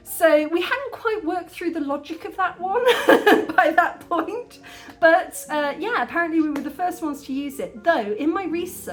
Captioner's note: laughing